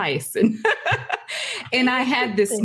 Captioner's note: laughing